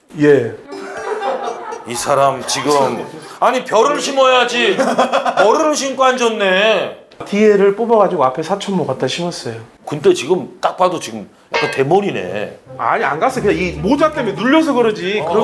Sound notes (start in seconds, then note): 4.7 hahahaha